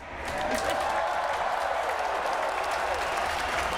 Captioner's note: cheers and applause